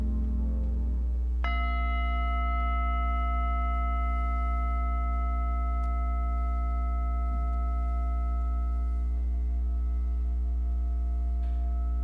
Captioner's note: singing bowl rings